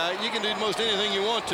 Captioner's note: crowd cheering